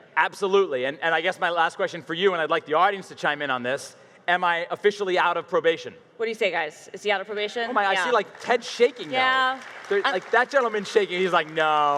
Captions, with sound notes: - Absolutely, and I guess my last question for you, and I'd like the audience to chime in on this, am I officially out of probation? - What do you say guys? Is he out of probation? (audience claps) - I see like ten shaking no. - Yeah. - That gentleman is shaking, he's like,